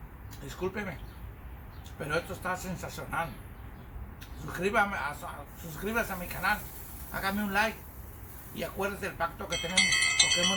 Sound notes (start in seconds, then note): 9.4 bell